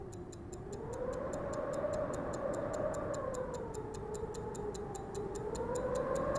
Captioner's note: ticking; wind blowing